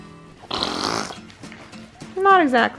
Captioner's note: farting sound